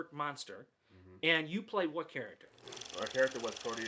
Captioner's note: reel flicking